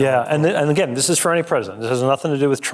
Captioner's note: none